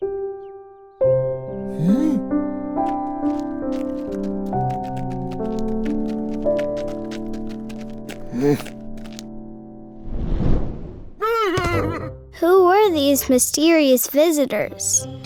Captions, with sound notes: (light piano music) (Abraham exclaims loudly) - [Voiceover] Who were these mysterious visitors?